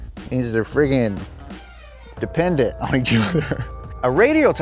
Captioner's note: laughs